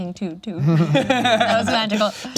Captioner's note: laughs